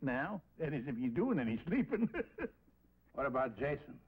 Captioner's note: laughs